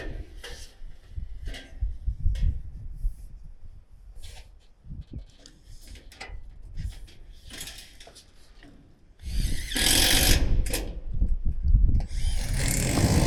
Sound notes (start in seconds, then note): 9.2 drill drilling